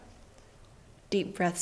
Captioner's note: suspenseful stage silence